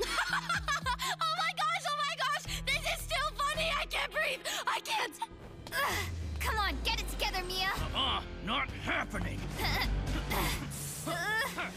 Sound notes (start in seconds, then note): 0.0 laughing; 8.8 grunting